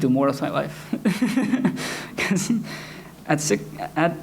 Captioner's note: giggles nervously